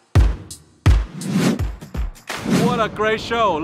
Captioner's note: whooshing